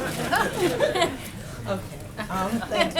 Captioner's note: laughter